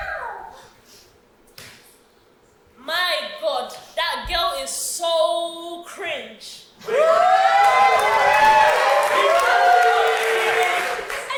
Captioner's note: audience cheers